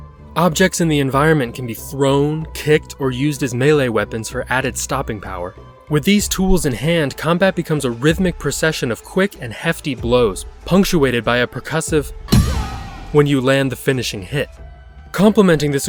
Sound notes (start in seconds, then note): 12.2 kill crash sound